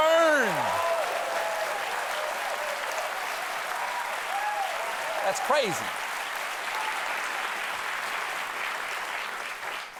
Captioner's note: cheers and applause